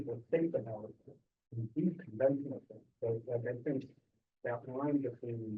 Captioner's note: student speaking faintly off mic